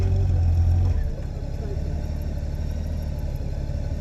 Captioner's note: engine sounds get quieter